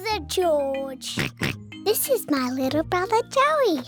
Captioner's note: oinks